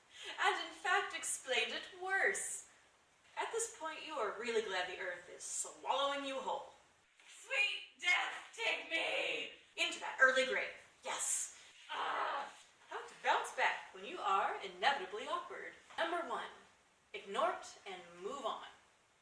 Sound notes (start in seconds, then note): 11.7 dying sounds